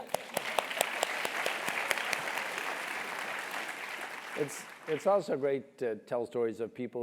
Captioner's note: applause